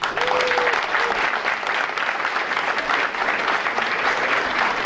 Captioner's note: audience applauding